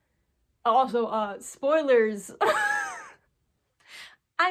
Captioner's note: wheeze